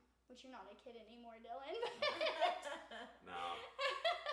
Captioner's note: laughs